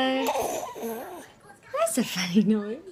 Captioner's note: grunting